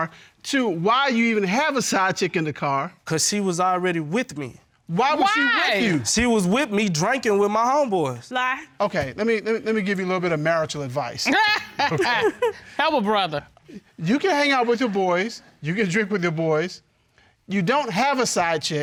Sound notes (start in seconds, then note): 11.2 laughs